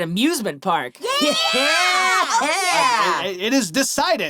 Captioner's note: cheering